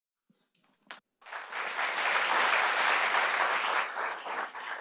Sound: audience applauding

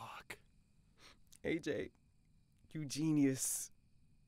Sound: sniffs

